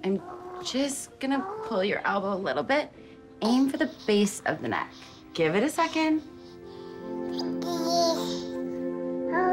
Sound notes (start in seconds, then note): 5.4 baby coos